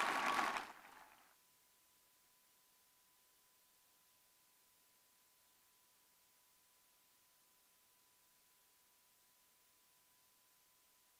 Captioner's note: cheers and applause